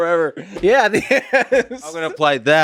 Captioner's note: Tim laughs